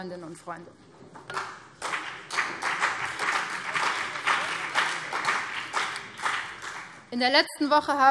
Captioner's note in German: Beifall BÜNDNIS 90/DIE GRÜNEN und CDU